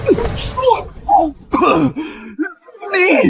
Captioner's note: cough